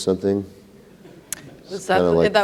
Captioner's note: audience laughter